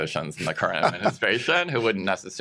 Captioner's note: laughs